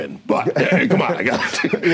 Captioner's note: chuckling